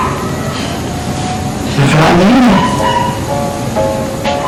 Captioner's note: Joey sighs